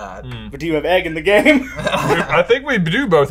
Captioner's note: laughs